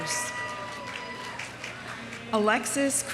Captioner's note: audience applauding